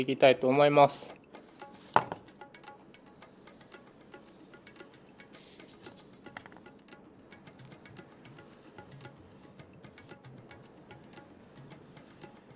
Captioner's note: the sound of cutting